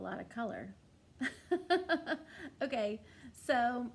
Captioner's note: laughs